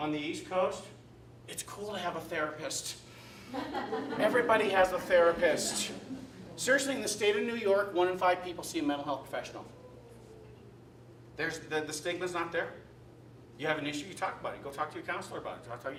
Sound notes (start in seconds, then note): 3.4 laughter